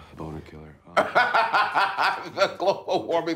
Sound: laughing

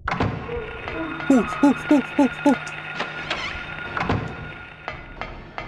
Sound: pretty much sobbing

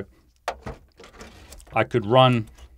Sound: metal thumping

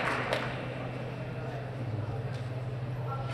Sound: applause

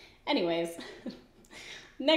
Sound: giggles

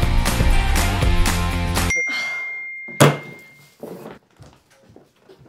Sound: text message alert

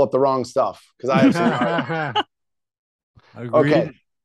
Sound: chuckling

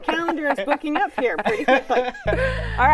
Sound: laughter

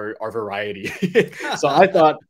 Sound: laugh

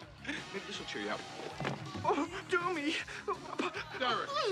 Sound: moaning

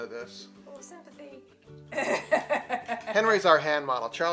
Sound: laughs

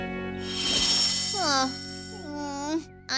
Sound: grumbles

